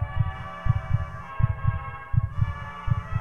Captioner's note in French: téléphone portable vibrant; cœur battant sur la musique